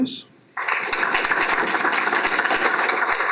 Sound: applause

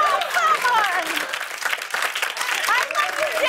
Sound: applause

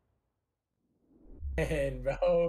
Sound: air rumbles softly

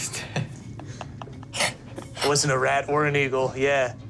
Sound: laughs

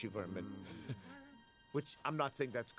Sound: chuckles

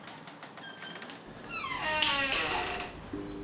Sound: door opens

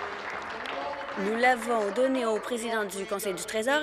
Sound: applause

